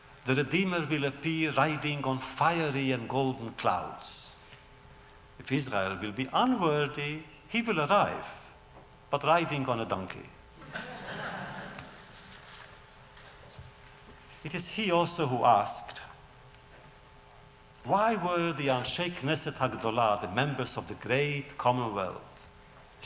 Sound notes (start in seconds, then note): 10.6 laughter